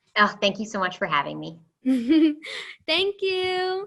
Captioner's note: laughter